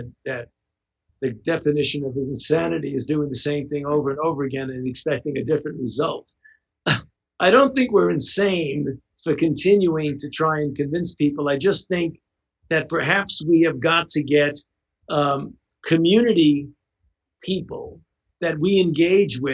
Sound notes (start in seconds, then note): 6.3 chuckles